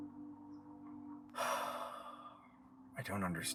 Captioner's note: ben sighs